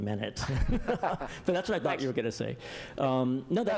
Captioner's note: laughter